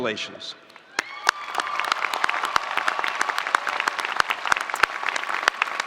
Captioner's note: spectators applauding